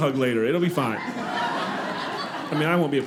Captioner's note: audience laughing